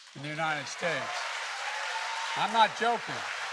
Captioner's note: applause